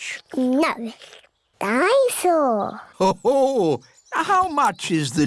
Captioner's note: daddy pig laughs